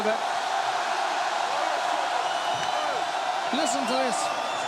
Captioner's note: crowd chants "Hooo"